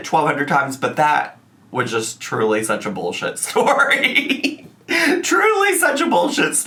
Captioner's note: laughing